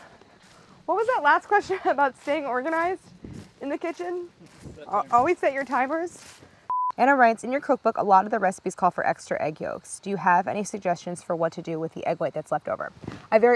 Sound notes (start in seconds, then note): 6.7 beeps